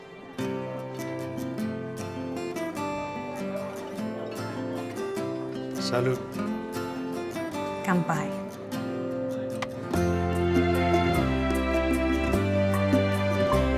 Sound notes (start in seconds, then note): 0.1 mid-tempo music plays; 7.9 speaks japanese